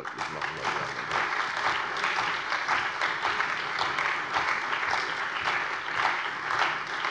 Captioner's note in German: Beifall bei der CDU und dem BÜNDNIS 90/DIE GRÜNEN